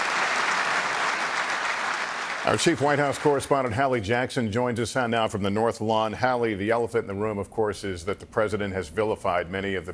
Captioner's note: applause